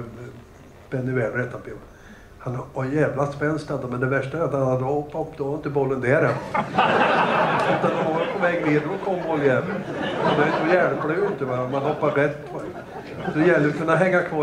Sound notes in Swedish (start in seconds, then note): 7.8 Skratt